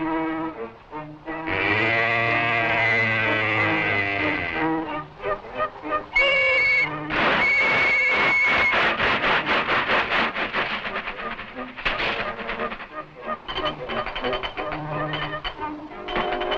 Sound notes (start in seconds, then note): 1.4 cow moos; 5.8 steam hissing; 6.1 whistle blowing; 13.7 hoist clicking